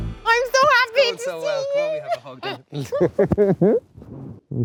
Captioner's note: laughs